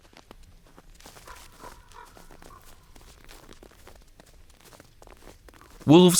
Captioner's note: odgłos wilczego biegu po śniegu, krakanie kruka